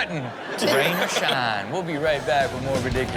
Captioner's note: audience laughs